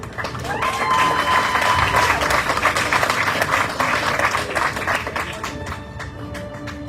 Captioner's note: audience cheering, applauding